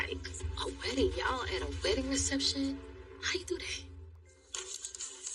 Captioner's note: TV V static hisseses